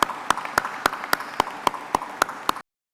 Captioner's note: applause